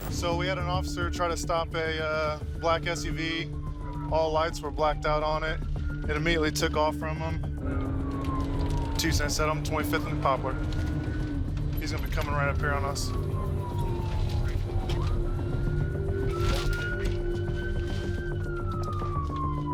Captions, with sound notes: - So we had an officer try to stop a black SUV. All lights were blacked out on it. It immediately took off from him. 277, I'm at 25th and Poplar. He's gonna be coming right up here on us. [siren wailing]